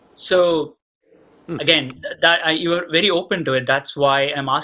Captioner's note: Sadhguru laughs